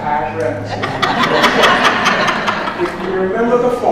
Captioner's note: audience laughs